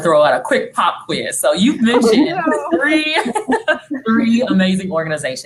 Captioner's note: laughing